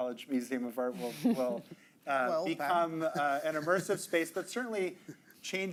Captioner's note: chuckling